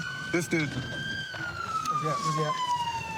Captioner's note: siren wailing